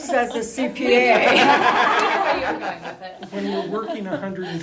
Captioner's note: laughing